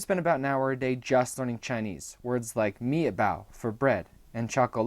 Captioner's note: speaking chinese